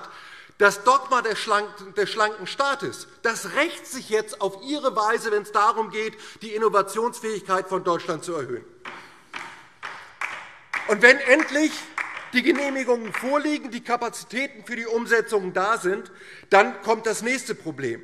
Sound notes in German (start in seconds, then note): 9.3 Beifall DIE LINKE